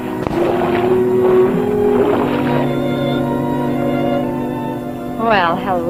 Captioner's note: sloshing